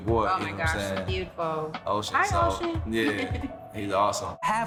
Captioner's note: giggles